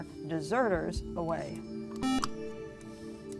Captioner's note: buzzer